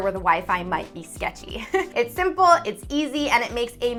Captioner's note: giggles